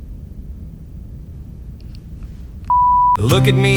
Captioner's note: beep